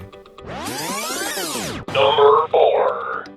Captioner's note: electronic buzzing